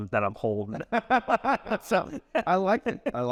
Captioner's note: laugh